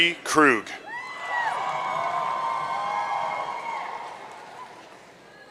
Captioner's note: audience cheering